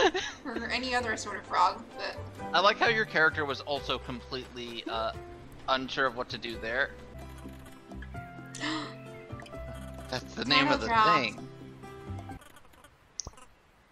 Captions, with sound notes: or any other sort of frog, but i like how your character was also completely unsure of what to do there *gasp* - that's the name of the thing - title drop